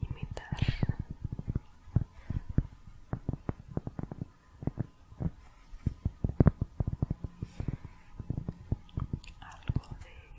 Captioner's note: tapping on cork